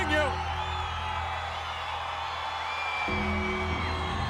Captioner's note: crowd cheering